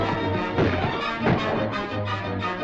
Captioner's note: gunshots